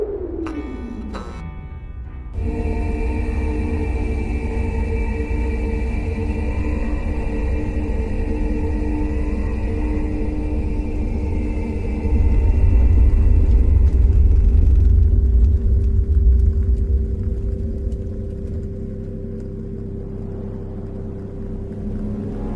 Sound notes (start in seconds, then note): 0.4 light buzzes; 3.0 eerie distorted noise; 13.6 ground rumbles